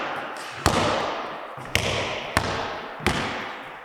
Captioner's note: ball bouncing